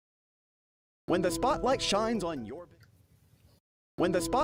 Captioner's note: voiceover